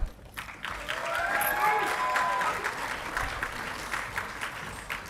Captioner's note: audience clapping and cheering